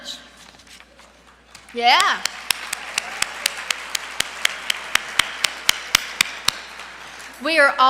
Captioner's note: applause